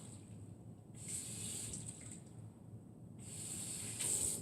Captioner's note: running water